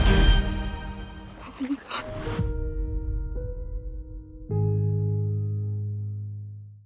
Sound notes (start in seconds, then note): 1.1 breathless; 2.3 soft, dramatic music